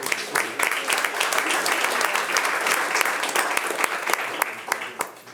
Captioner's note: attendees applauding